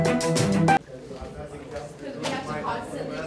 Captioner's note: background Conversation